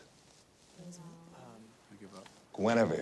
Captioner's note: students murmur